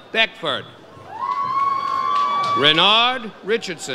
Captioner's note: audience cheers